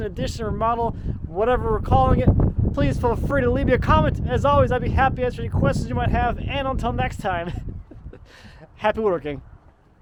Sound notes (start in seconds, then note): 7.4 chuckling